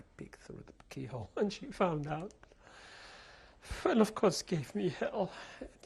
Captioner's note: sobbing